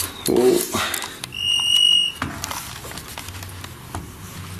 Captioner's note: device ringing